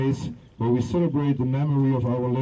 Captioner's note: none